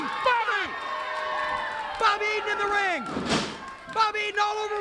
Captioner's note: applause